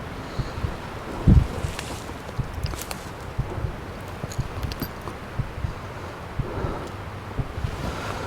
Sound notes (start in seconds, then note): 2.1 leaves rustle; 2.1 nervous breathing